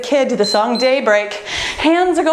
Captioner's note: timer beeps